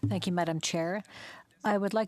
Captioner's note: speaking French